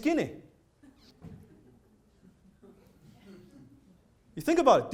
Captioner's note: audience laughs quietly